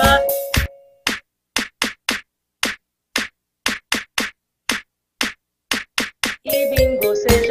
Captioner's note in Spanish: clap